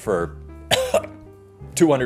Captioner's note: cough